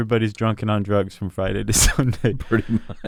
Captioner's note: laughs